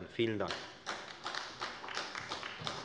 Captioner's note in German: Beifall bei der FDP und bei Abgeordneten der CDU